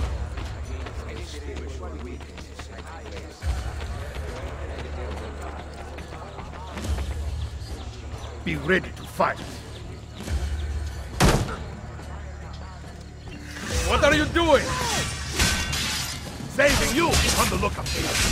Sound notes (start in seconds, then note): 11.2 Mario kicks door; 13.7 fighting sounds